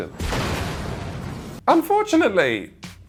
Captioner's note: explosion booms